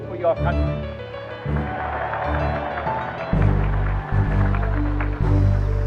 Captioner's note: applause